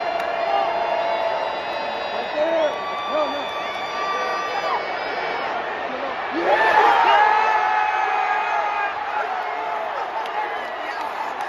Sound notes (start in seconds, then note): 0.0 crowd Cheers